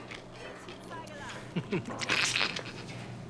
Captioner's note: chuckles